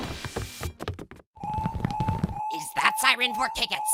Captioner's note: fire alarm